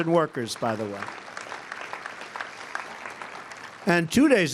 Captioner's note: applause